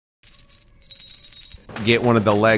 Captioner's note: chains rattle